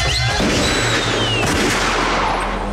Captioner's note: Gunshot